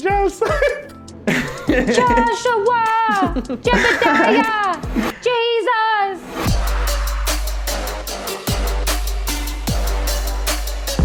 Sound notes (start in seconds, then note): 1.2 laughs